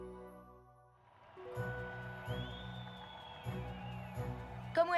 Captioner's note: cheers